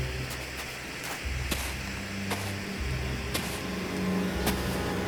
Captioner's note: footsteps crunching